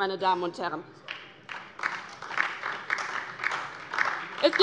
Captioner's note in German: Beifall DIE LINKE und vereinzelt SPD